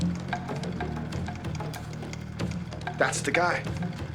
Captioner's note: clicking continues